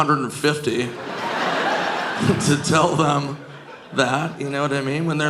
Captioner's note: audience laughing